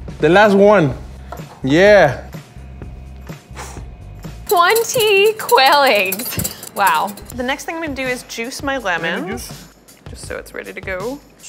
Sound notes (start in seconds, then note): 3.6 exhaling